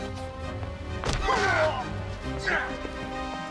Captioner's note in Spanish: guardia gruñendo